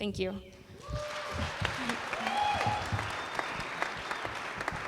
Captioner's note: applause